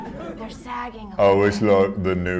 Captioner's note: whispers